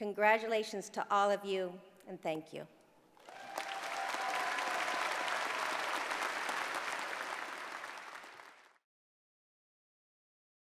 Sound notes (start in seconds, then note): 3.2 applause